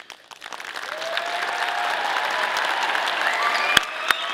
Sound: audience applauding

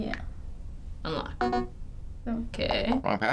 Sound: error blip

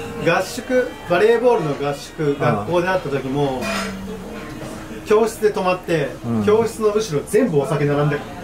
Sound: speaking Japanese

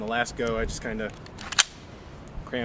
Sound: gun cocks

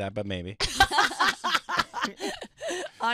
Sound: laughing

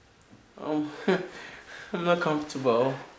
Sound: Cathelaya chuckles nervously

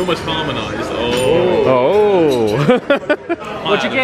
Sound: laughing

